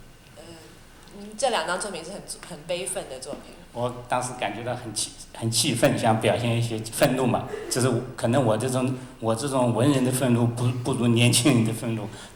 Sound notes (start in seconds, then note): 1.5 Mandarin